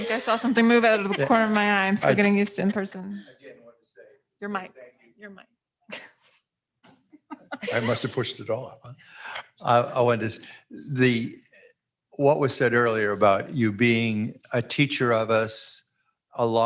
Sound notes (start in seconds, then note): 7.2 laughs